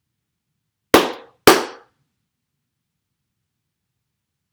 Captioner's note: claps